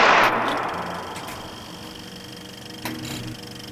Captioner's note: film rattling